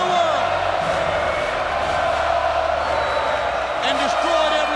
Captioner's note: crowd cheering and chanting continues